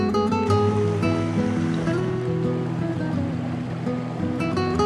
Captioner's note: stream running